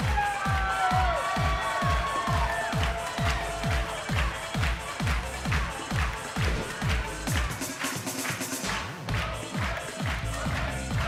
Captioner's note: cheers and applause